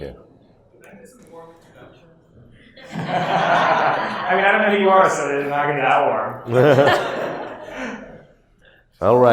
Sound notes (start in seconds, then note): 2.8 audience laughs; 6.4 audience laughs